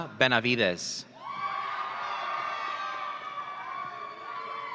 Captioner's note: audience cheering